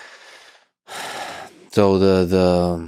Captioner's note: Lex sighs